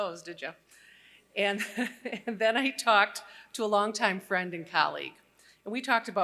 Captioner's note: laughter